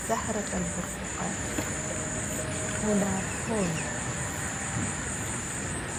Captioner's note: participant speaking a foreign language